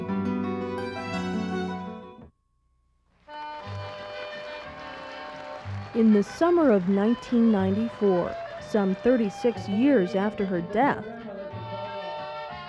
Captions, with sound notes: (gentle pensive music continues) (cheerful polka music) (crowd applauds) In the summer of 1994, some 36 years after her death,